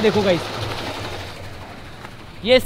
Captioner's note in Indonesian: Suara turbin